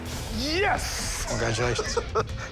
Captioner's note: laughter